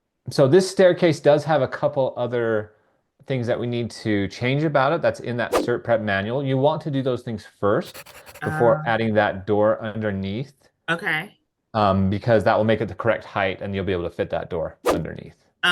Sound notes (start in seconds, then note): 5.5 image whooshing; 7.8 pencil scribbling